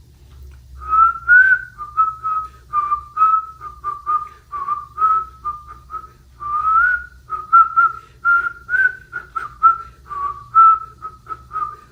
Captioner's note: whistles